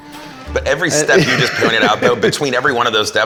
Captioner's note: laughs